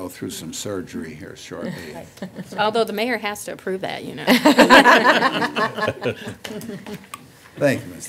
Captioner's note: laughter